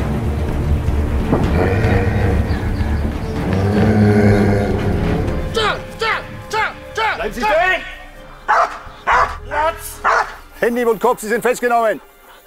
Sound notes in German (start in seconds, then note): 1.3 Knurren